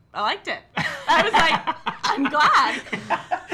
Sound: laughing

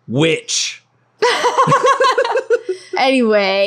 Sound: laughing

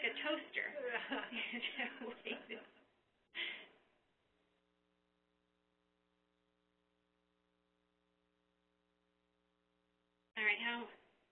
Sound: laughs

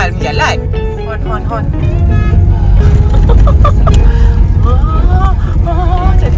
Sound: laugh; honk

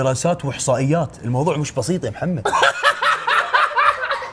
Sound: laughs

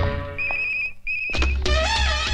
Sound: phone ringing

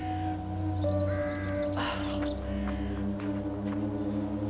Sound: she sighs

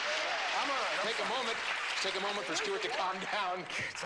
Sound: clapping

